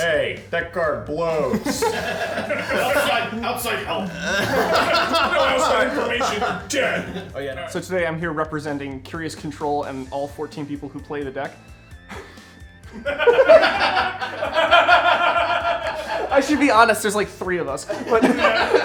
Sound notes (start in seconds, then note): 1.2 players laughing; 4.4 people laughing; 12.8 people laughing; 12.9 laughing